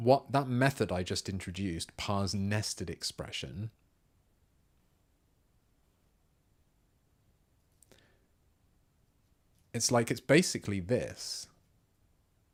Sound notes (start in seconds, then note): 3.7 silence; 11.5 silence